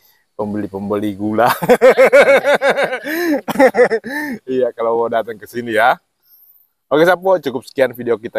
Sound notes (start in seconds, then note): 1.4 laughs